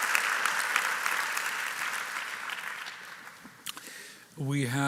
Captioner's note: applause